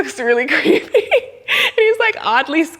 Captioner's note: laughs